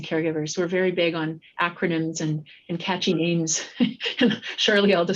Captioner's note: chuckles